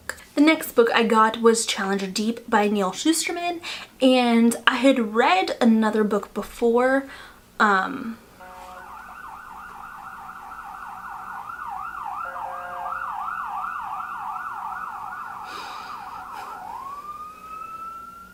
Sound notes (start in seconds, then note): 11.5 police sirens